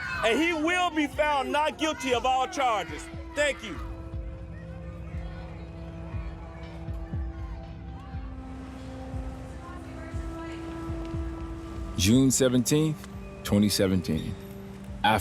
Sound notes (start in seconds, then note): 5.3 muffled shouting; 5.3 tense music